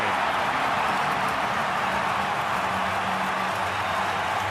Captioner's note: crowd cheering